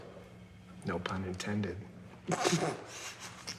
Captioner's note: whispering; snickering